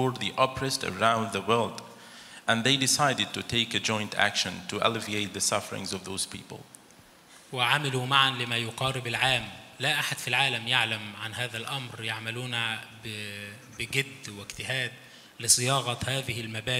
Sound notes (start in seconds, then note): 7.7 speaks in foreign language